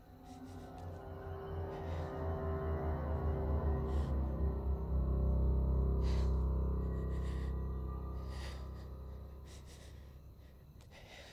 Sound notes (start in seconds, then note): 0.1 dramatic music; 6.0 shaky breathing